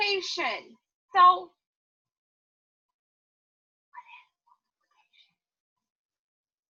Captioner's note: whispers